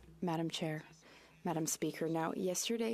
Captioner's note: speaking French